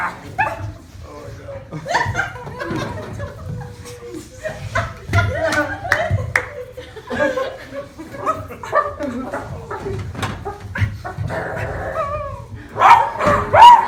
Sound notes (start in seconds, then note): 10.7 whimpering; 11.2 growling